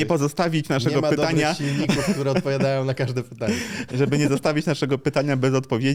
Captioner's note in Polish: śmiech